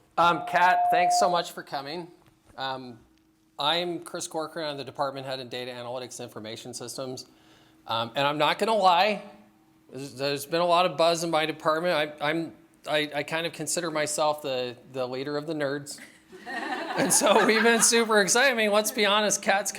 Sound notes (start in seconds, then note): 16.0 laughter